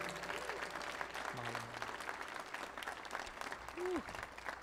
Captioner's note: audience applauding